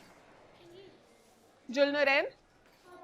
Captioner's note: child answers softly